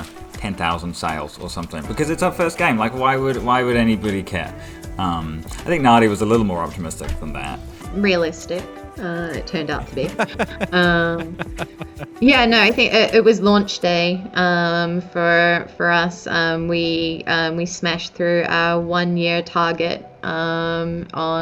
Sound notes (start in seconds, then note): 9.8 laughs